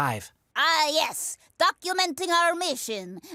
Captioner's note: bad russian accent